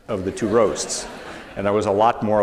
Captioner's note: laughter